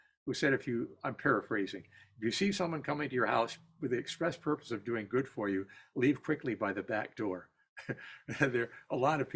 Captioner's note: laughter